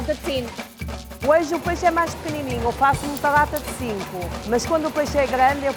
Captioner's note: person speaking in Portuguese